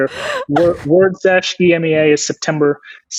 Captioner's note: laughing